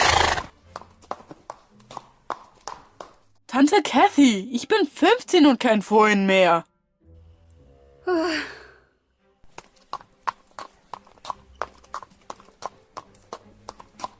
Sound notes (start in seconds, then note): 0.0 snorts; 8.0 sigh